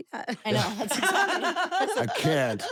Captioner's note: laugh